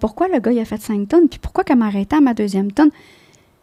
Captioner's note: in french